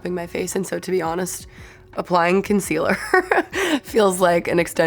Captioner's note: laughs